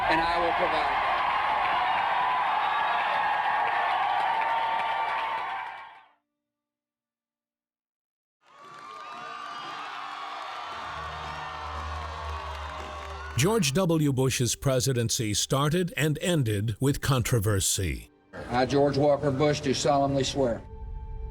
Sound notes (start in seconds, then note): 0.0 crowd cheers and applauds; 8.4 crowd cheering